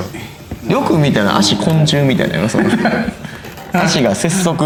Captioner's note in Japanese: 笑い